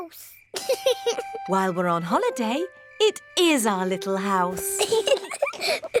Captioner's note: george laughs; both laugh